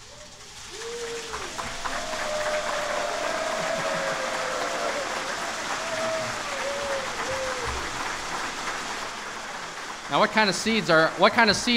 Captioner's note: rattling and cheering